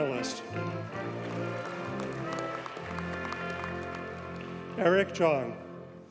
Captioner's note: audience cheers and applauds